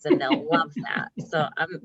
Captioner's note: laughing